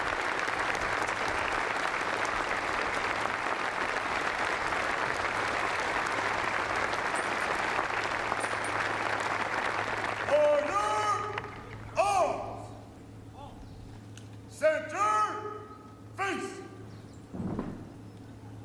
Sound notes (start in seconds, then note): 2.3 applause